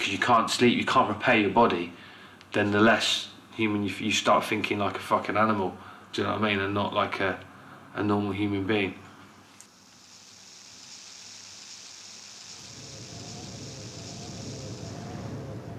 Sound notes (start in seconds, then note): 9.6 crickets chirping; 12.5 wind gusting